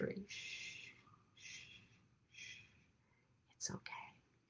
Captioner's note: shushes